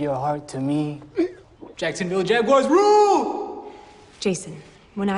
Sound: gags

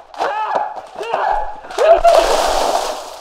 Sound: shouts loudly; water splashing

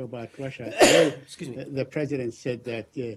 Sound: sneezes

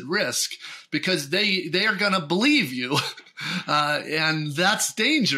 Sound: chuckles

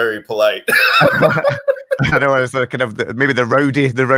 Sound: both laughing

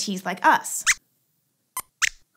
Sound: squeaks squeaks

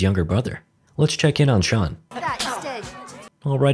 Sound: slap

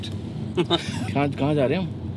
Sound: laughing

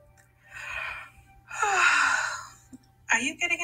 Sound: yawning

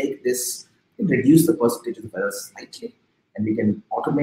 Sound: speaking softly

